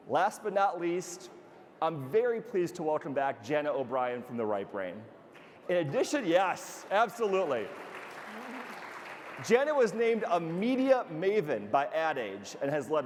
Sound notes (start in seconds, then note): 5.8 audience applauding